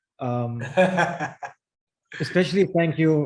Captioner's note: laughs